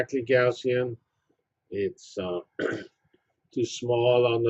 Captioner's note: cough